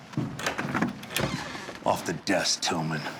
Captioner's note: door opens